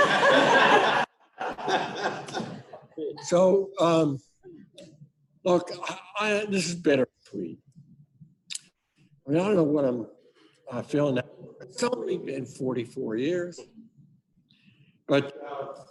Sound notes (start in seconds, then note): 3.6 laughter